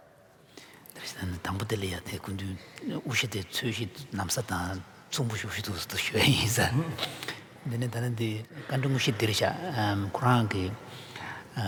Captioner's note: foreign Language